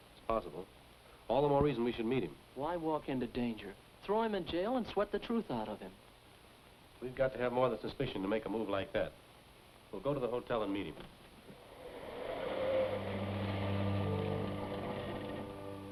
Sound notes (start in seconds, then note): 11.5 engine rumbles